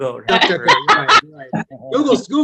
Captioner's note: laughs